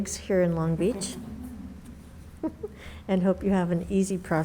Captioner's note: laughs